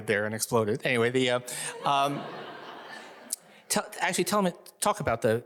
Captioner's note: audience laughing